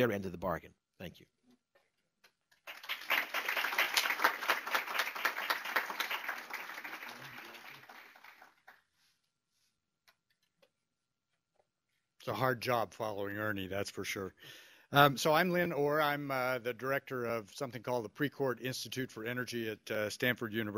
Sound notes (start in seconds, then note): 6.4 applause; 7.4 pause